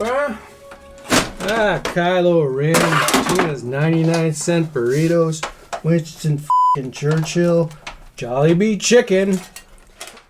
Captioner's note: beeping